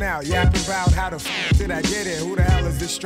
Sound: electronic powering down

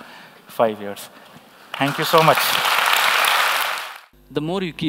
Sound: applause

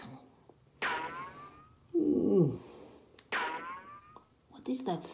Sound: bullet ricochet

